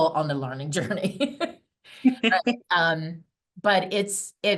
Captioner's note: both laughing